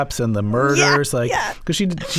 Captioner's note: laughter